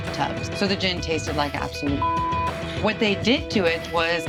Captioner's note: beep